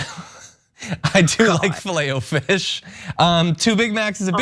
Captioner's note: laugh